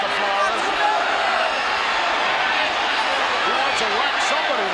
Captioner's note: audience shouting